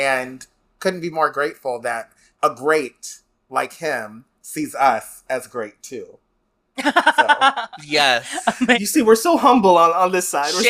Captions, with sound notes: And couldn't be more grateful that a great like him sees us as great too. [Laughs] Yes. You see, we're so humble on this side.